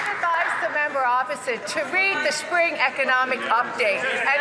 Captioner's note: some Applause